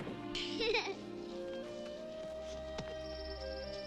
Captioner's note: Amy laughs